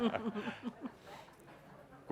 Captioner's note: laughter